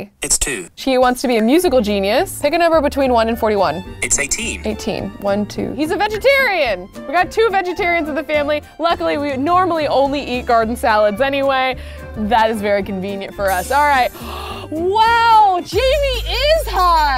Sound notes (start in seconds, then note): 14.1 gasps